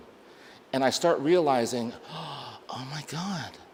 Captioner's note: gasps softly